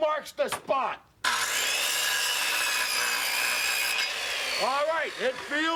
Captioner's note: saw whirring